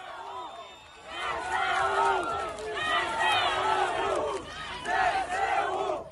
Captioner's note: crowd chanting